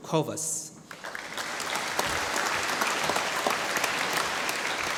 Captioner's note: applause